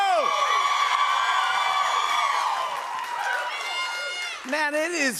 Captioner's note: cheers and applause